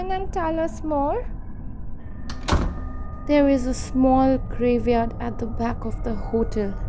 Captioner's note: footsteps+ closing of door